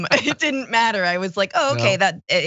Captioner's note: laugh